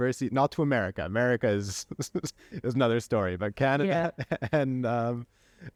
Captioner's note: laughter